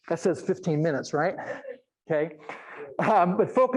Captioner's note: audience laughing